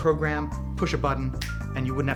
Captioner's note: snaps